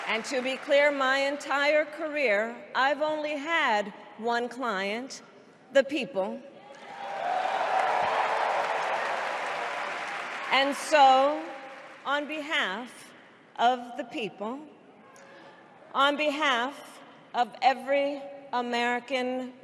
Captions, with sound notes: - And to be clear, my entire career, I've only had one client, the people... (crowd cheering) And so, on behalf of the people, on behalf of every American,